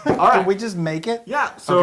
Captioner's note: laugh